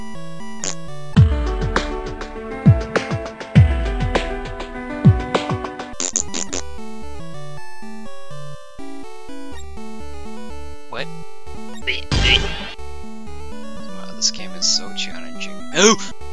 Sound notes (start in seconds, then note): 0.6 poot; 5.9 poot x4